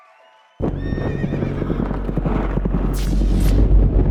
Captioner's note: applause; horses whinny and gallop